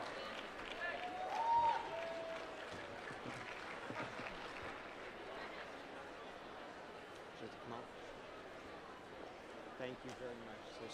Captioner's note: applause